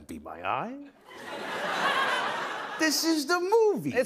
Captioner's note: laughter